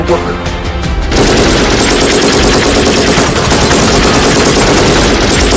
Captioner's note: gunshots banging